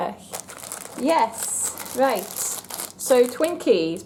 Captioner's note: wrapper crinkles